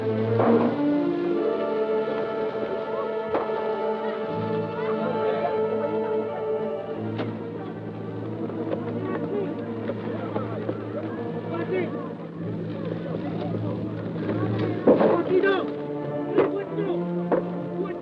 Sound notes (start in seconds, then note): 11.9 guerrillas talking excitedly